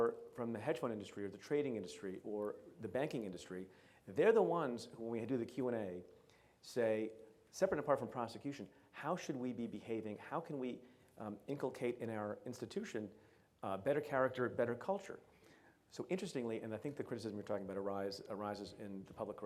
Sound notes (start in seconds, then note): none